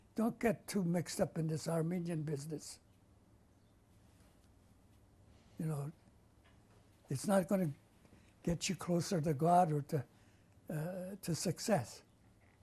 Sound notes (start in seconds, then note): 2.5 pauses for 3 seconds